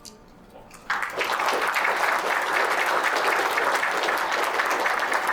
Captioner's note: audience applauding